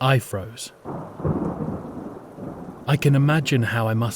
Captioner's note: SFX Thunder